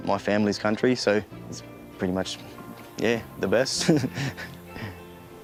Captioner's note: laughs